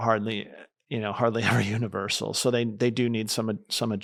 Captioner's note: chuckles